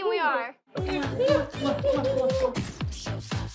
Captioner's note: smooching; gasps